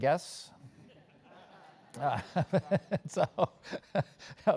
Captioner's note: laugh